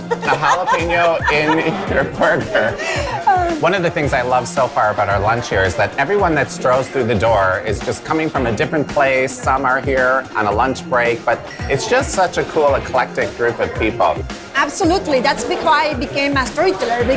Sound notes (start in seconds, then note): 0.0 laughs; 4.2 chuckles